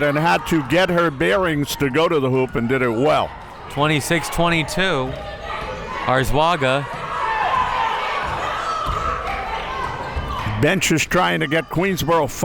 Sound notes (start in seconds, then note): 7.9 crowd members shouting